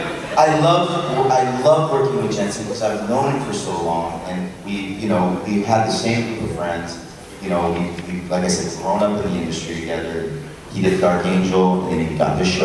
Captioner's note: crowd cheers